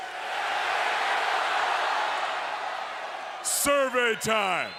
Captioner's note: crowd cheers